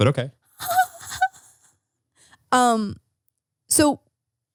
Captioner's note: laughing